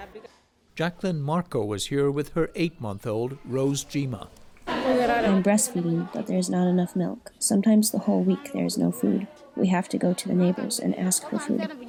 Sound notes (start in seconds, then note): 5.3 through translator